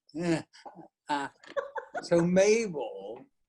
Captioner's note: laughs